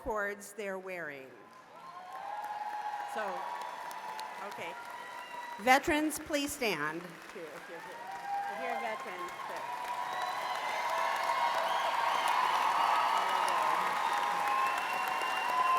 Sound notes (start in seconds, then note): 1.3 applause; 9.7 cheers and applause